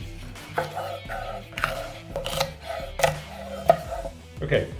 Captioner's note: pepper crunching